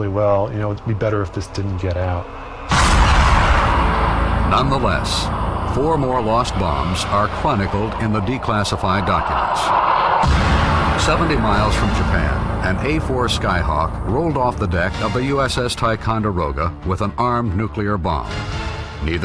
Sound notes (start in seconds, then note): 3.1 plane roaring